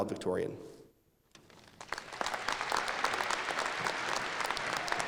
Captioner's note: applause